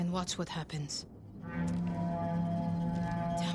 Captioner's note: alarm